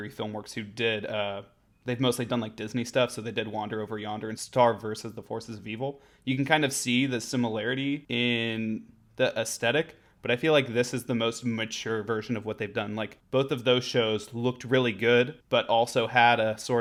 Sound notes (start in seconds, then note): none